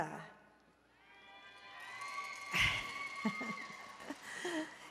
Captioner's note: applause and Cheering